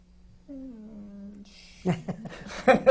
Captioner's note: laughs